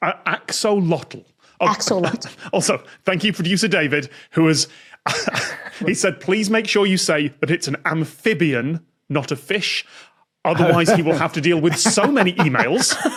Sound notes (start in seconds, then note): 5.1 cracks up